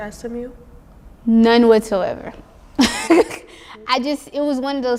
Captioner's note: laughs